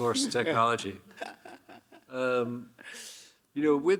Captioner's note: Hiroshi chuckling